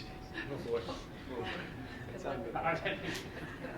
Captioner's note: mild chattering